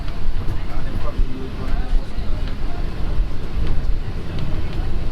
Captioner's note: engine roars